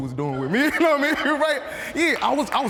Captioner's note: laughs